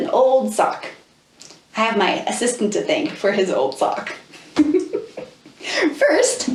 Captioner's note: laughs